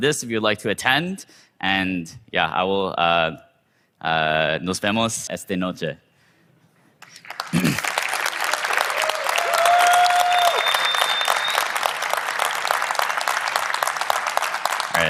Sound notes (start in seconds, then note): 7.0 clapping; 9.4 crowd cheering; 12.1 clapping